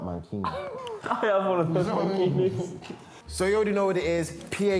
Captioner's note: laughs